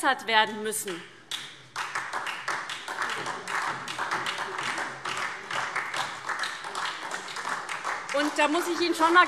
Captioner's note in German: Beifall SPD und vereinzelt DIE LINKE